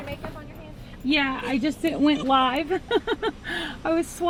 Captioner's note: laughs